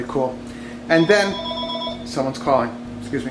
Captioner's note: phone ringing